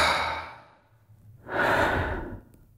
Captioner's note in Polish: wzdycha; wzdychają